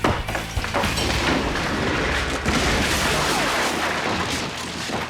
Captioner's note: ceiling crashing